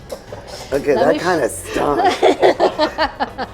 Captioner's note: laughs